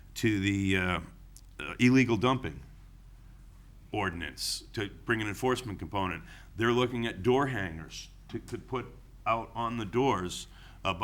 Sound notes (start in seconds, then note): none